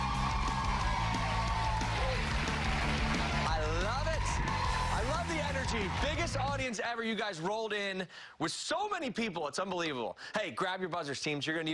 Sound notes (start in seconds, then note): 5.5 cheers and applause